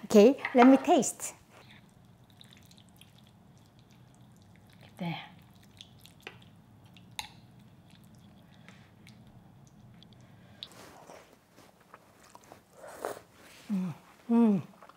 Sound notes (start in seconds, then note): 1.6 broth sloshing; 12.2 lips slurping